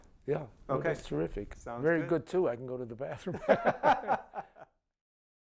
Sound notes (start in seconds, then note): 3.2 laughter